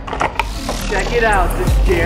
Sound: engine rumbling

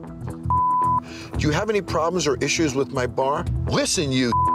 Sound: beep; beep

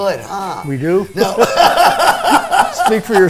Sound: both laughing

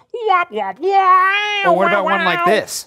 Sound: the professor imitating trumpet sounds

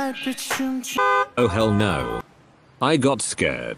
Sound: car honks

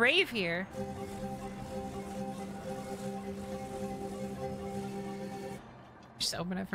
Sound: repeated Pulsing Of Puzzle Activation and Deactivation

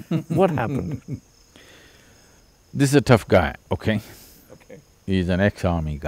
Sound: laughs

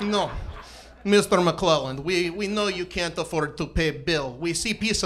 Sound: Russian accent

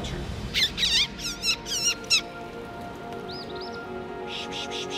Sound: birds chirping

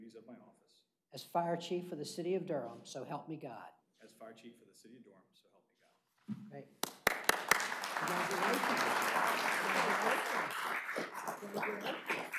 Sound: applause

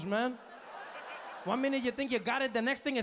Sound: audience laughing

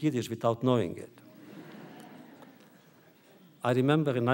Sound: audience laughter

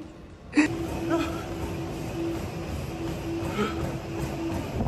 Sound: laughing; heavy breathing

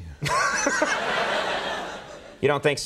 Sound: laughter

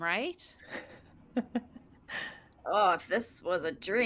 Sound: laughs

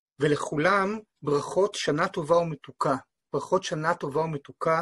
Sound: speaking in foreign language

